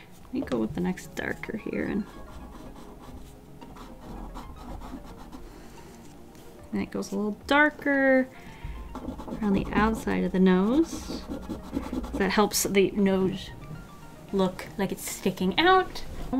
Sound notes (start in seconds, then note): 3.6 soothing drawing sounds